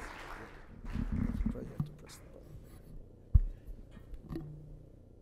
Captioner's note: applause